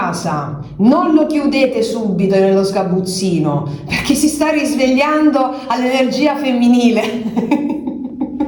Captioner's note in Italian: risate